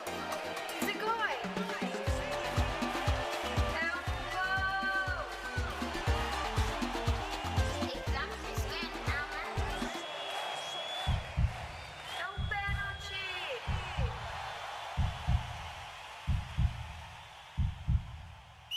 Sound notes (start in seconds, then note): 0.0 speaking in Foreign Language; 0.2 echo; 1.0 speaking in Foreign Language; 8.0 speaking in Foreign Language; 9.8 cheering crowd; 11.0 heartbeat; 12.6 speaking in Foreign Language; 13.6 cheering crowd; 13.6 heartbeat